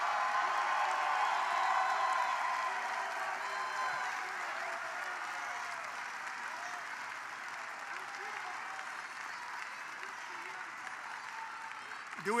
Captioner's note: applause